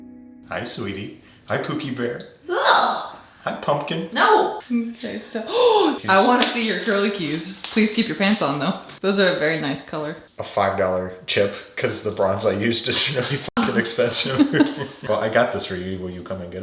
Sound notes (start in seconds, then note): 5.4 gasping; 13.6 both laughing